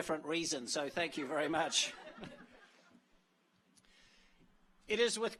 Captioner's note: audience laughs